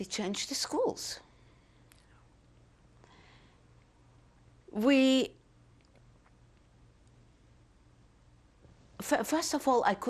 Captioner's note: pauses for 3 seconds